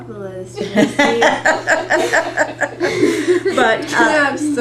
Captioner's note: laughter